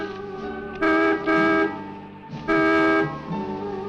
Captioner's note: dramatic music; horn honking